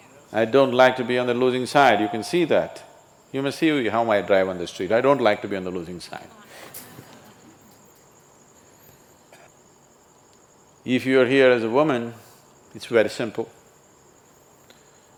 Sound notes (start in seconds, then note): 9.9 laughs